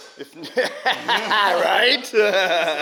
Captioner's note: laughing